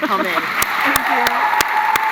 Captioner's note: applause